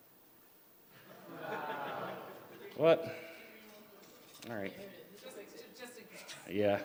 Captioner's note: laughter; laughter